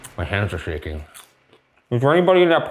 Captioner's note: popcorn crunching